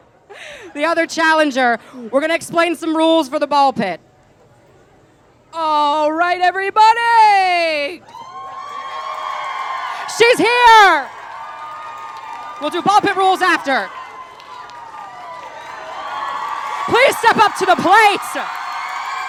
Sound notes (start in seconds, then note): 8.1 cheering at the arrival of Strange; 14.6 cheers